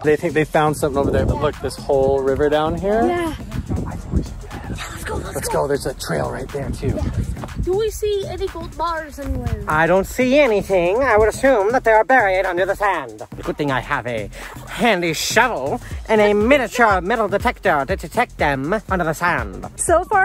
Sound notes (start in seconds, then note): 4.2 whispers